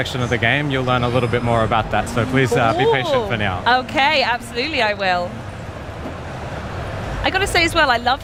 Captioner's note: speaking global language